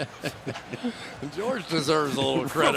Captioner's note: laughter